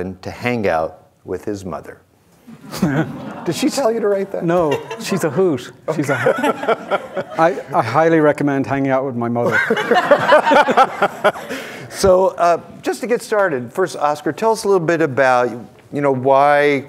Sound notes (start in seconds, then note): 2.9 audience murmuring; 5.8 audience laughing; 9.5 audience laughing